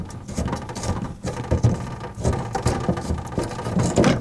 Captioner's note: scraping